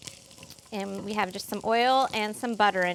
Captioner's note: sizzling